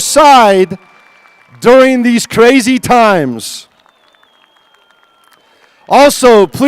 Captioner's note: applause